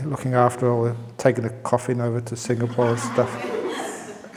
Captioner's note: laughs